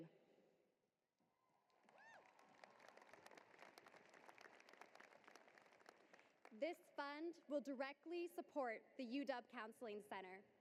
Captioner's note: applause